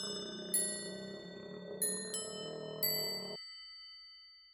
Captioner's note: demonic growling